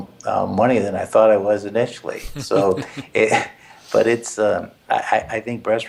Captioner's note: laugh